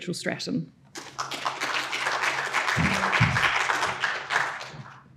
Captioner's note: audience applauding